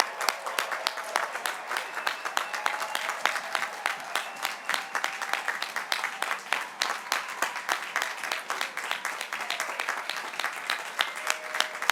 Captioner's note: cheers and applause